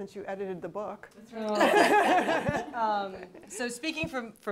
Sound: laughter

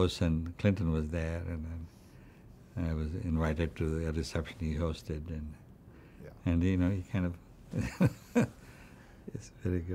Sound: laughs

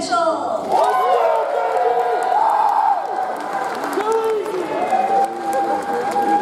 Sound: audience cheers; audience applauds

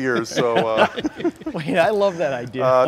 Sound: laughter

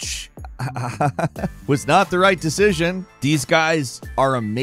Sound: Falcon laughs

